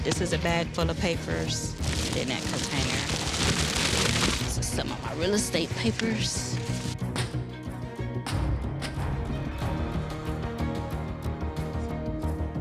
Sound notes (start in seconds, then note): 7.2 feet thudding; 10.9 gentle music